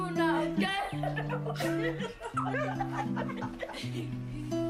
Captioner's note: people laughing